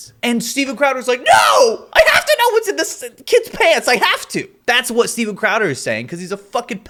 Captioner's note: none